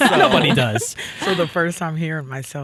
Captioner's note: all laughing